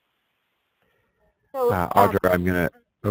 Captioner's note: voiceover